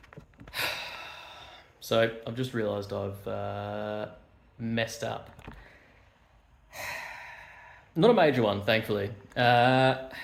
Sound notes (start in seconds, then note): 6.7 sigh